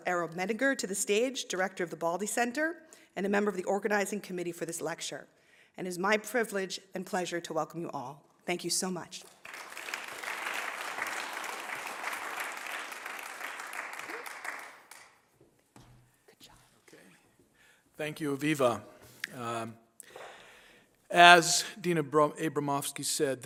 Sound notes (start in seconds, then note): 9.2 applause